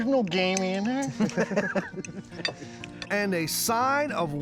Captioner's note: laughing